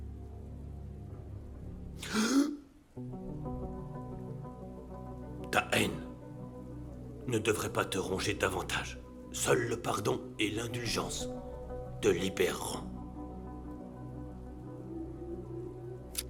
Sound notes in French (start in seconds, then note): 2.0 le moine inspire brusquement; 13.6 musique douce